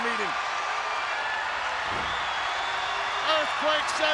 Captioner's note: audience cheers